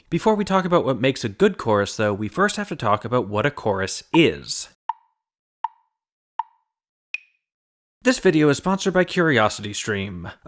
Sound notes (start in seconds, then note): 5.6 tick, tick, tick, tick, tock